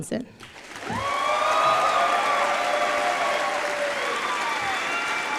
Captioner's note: applause